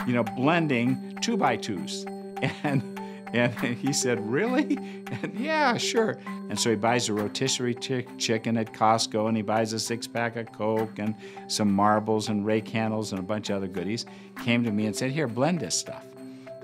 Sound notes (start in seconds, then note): 2.4 laughs